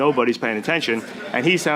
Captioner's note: laughter